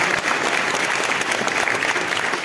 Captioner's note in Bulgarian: аплодисменти